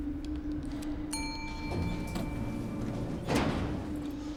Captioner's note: elevator dings